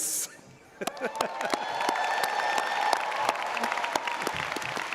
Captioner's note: audience applauding